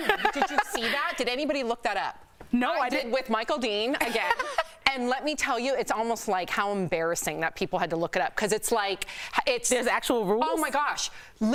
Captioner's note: laughter